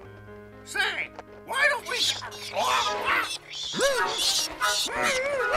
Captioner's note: bats screeching